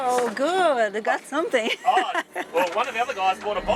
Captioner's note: laughs